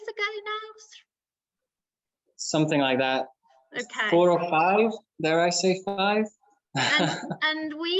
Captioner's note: laughs